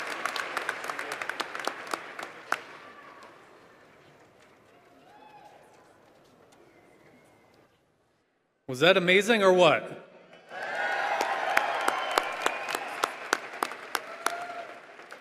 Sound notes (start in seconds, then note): 0.0 applause